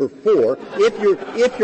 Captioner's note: laughter